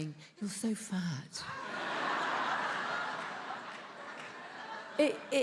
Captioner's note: attendees laughs